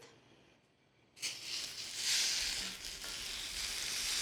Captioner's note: lobster sizzles